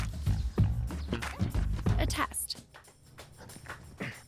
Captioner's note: grunting